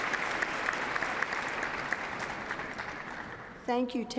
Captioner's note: applause